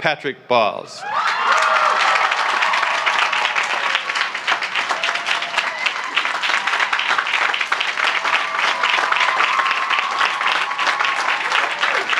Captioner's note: cheering; applause; cheering